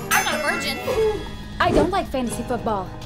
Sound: gasp

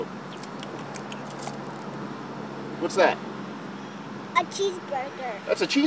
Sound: chomp, chomp, chomp

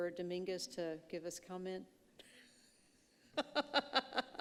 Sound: laughing

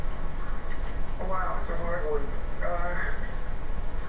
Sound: on TV

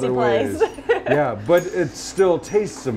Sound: laughs

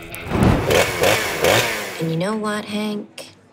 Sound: chainsaw revving

